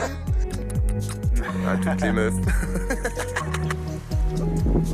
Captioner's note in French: ils rient